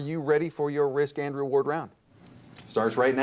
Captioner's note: none